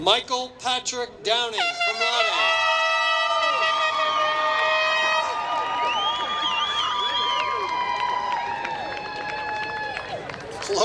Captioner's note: applause